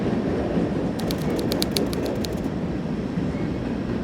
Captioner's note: train chugging